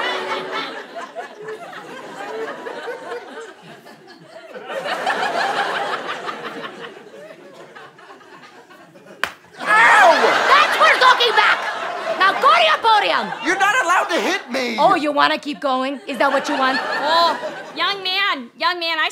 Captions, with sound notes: [audience laughter] [audience laughter] [whack] - Ow! - That's for talking back! Now go to your podium! - You're not allowed to hit me! - Oh, you wanna keep going? Is that what you want? - Oh, young man, young man,